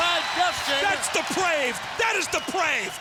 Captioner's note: crowd cheering